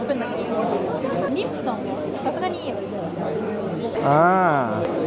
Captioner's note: speaking Japanese